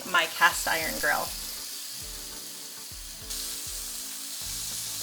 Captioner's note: sizzling sounds